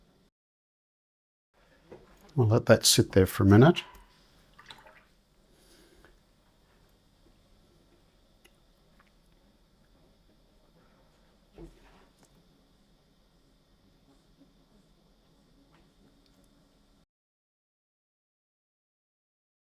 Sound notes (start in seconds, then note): 0.0 silence; 5.0 silence